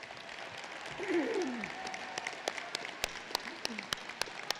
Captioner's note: applause